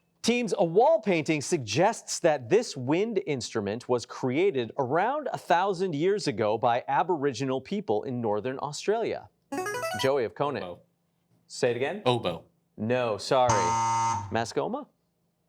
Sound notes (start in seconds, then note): 13.5 buzzer blares